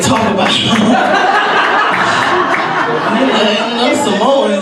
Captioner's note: audience laughs